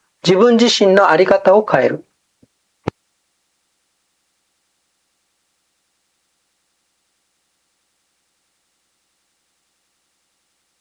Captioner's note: contains silence due to tape malfunction